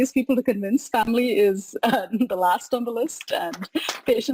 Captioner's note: laughs